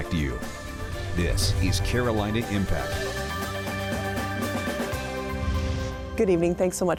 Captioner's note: air whooshes